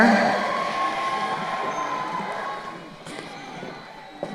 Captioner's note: crowd cheering